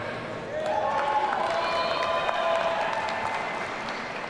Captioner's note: audience cheering